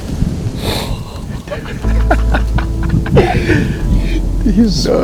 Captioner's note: cheerful laughs